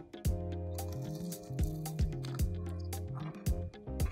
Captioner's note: crunching